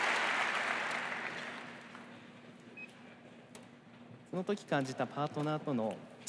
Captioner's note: applause